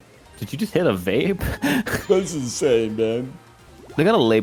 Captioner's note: vape voice